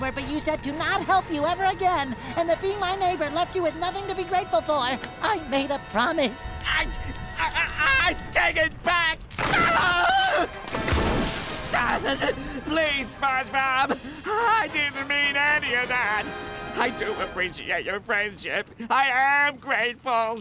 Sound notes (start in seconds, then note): 9.4 screaming; 11.3 stammering